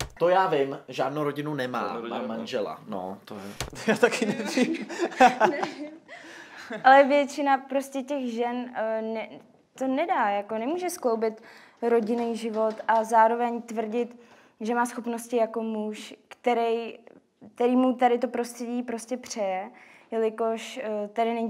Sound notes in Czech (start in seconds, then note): 3.7 smích